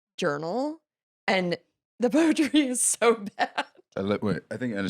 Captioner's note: laughs